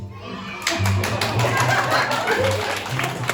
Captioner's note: kids cheering